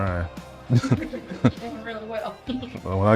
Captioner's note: laughter